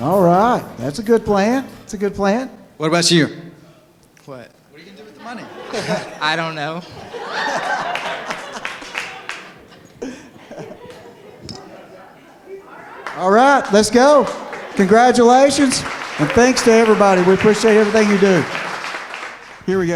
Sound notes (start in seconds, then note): 7.1 laughter